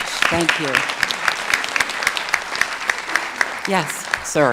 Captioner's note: audience clapping